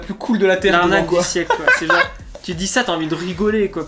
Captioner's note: laughs